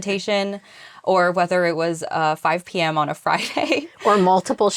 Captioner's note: laughs